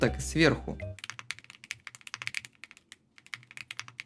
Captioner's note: unexpected typing